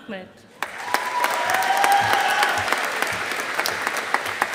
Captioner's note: audience applauding